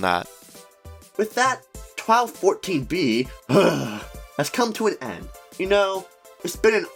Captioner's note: shudders